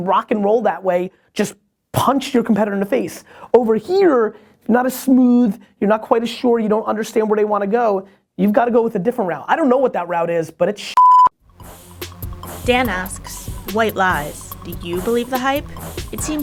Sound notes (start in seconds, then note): 12.7 voiceover